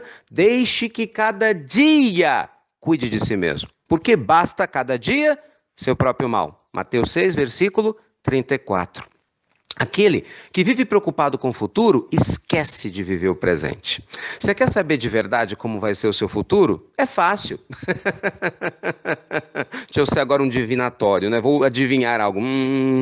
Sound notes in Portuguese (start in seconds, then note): 17.6 risos